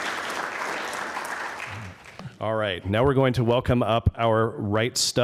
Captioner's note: applause